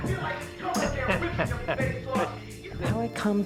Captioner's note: tom cruise chuckles